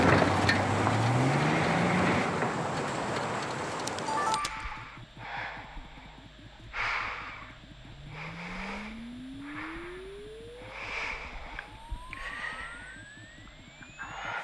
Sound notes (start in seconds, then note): 4.3 breathing; 10.1 tone oscillating